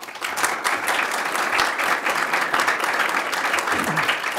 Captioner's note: clapping